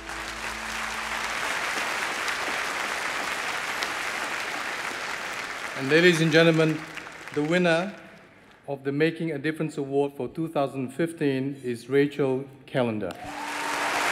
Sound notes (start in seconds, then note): 2.3 applause